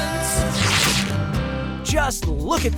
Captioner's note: ripping